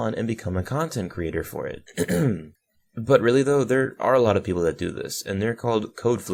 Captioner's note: ahem